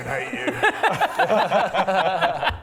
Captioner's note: laughs in no sympathy whatsoever